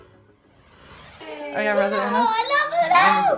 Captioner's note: children chatter